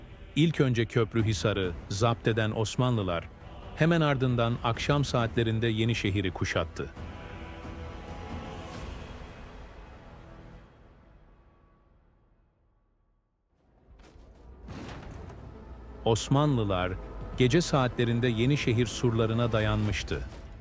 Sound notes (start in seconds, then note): 14.5 catapult Sounds